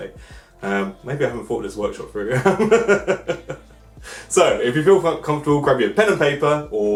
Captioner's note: laughs